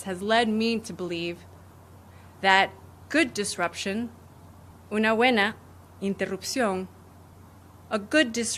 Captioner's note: speaking spanish